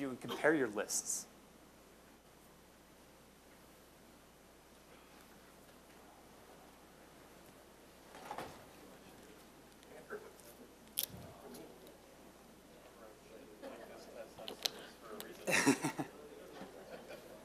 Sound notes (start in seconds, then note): 11.7 general chatter; 15.4 chuckling